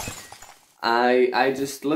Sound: glass breaks

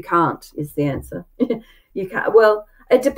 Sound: chuckles

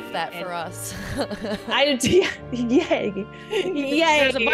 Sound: laugh

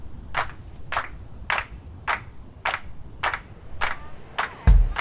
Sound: rhythmic clapping

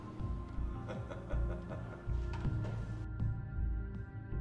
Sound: Dave laughing

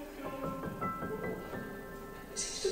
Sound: internal monologue

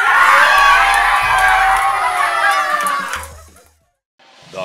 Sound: cheering

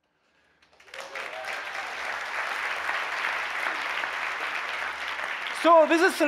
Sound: applause

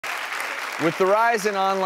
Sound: audience applauds

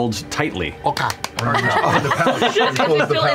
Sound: laughter

